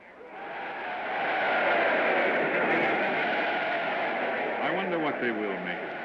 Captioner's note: crowd clamors